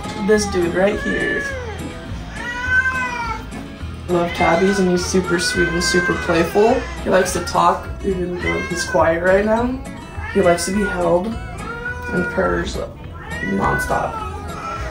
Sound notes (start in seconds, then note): 2.2 cat meowing